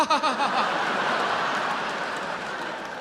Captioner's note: fakes laughter; audience laughs